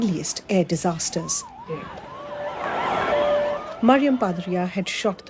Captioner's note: siren blaring